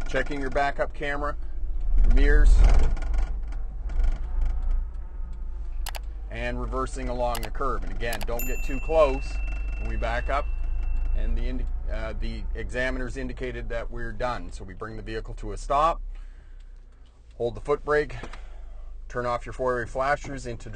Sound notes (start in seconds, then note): 5.8 screen button tapping; 8.2 bell chimes